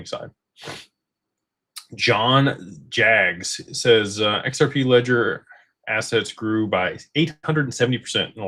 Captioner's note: snorts